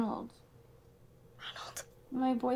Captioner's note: whispers